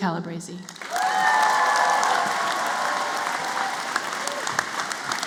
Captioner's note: applause